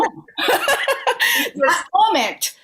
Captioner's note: laughter